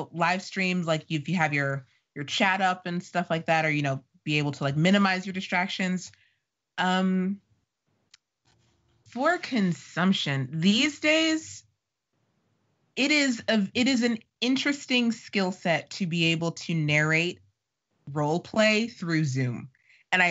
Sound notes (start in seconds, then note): none